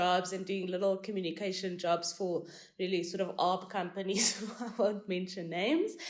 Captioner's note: laugh